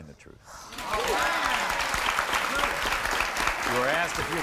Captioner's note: audience applauds